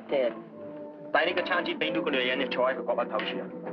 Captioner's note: speaking chinese